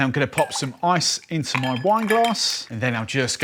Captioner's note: ice clinking